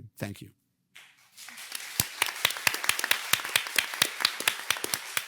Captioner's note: participants clapping